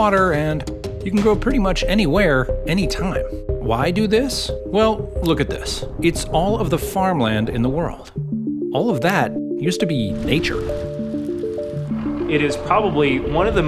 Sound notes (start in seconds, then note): 8.8 wood crackles; 9.8 combine engine rumbles